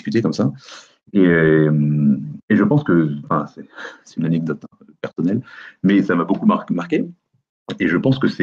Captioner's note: faint laugh